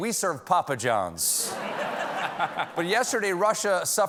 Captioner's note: laughter